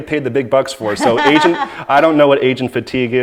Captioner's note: laughing